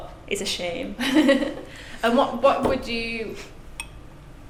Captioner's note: laughs